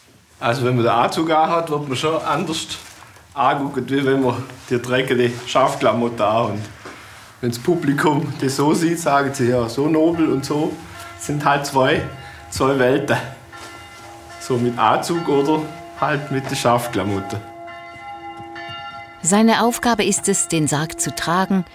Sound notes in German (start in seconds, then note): 17.6 Glockenläuten